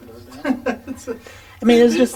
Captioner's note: laughing